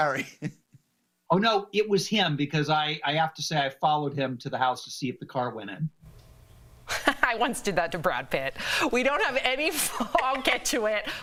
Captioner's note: laughter